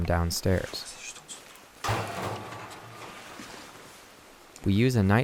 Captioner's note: speaks French